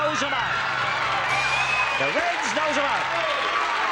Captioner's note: cheering